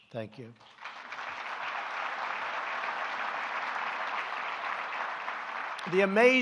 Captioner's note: applause